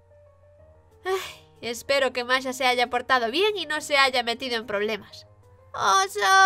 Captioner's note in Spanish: suspiro